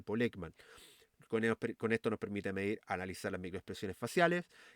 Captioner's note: exhale